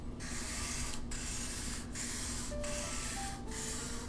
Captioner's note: marker rubbing on cardboard